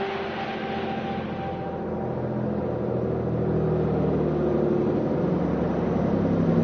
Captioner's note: bus rumbling